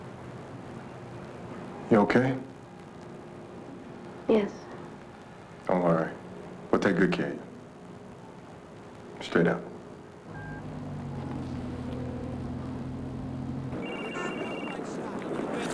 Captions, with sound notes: MOV IT.YOK. S. 'LTAKEGO CAROF YOU N'Y. IGHT U [RING]